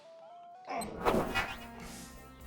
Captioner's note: zap!